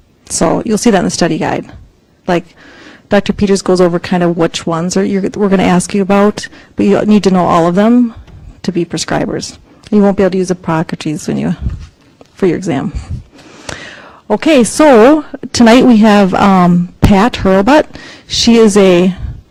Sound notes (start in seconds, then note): none